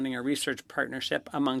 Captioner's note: speaking French